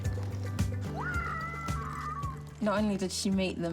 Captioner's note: shouts excitedly